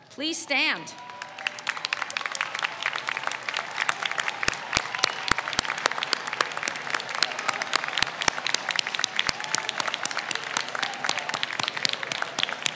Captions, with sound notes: Please stand. (audience applauds)